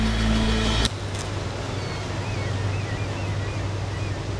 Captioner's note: clicking sound